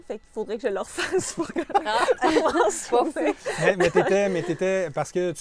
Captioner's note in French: rires